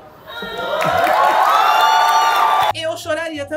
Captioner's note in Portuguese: plateia grita e aplaude